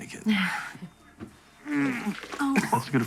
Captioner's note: retches